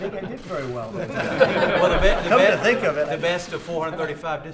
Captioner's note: laughter